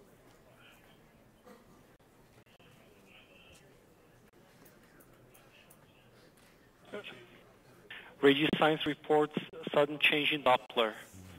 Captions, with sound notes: - [Male Radio Voice] Radio signs reports sudden change in doppler.